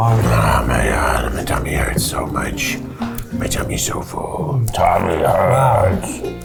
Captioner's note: growling